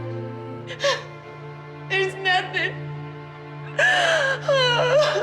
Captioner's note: crying